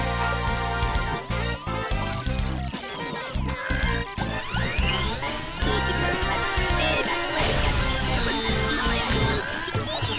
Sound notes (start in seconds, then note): 4.2 whirring & Beeping; 7.2 crash!